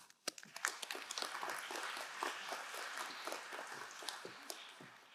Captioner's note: crowd applauding